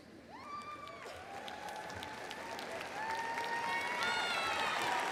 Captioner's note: audience applauding and cheering